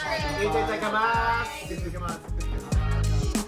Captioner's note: shouts in Japanese